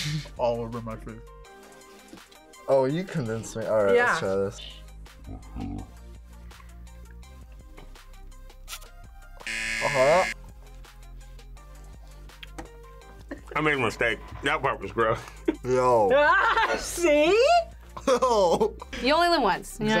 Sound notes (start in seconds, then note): 9.4 buzzer; 17.9 laughs